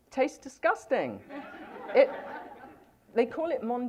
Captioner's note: laughter